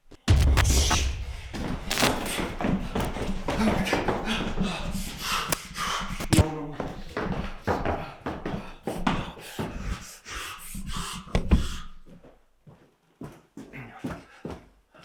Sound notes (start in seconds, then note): 0.0 static crackles; 2.1 feet stomping; 4.2 panting